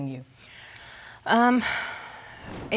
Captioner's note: sighs